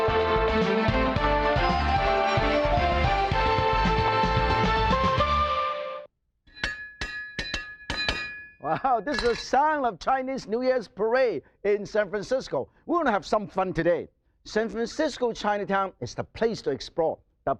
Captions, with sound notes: (knife clanging) - Wow, this is a sound of Chinese New Year's parade in San Francisco. We are going to have some fun today. San Francisco, Chinatown, is the place to explore.